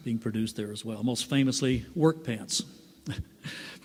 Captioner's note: laughs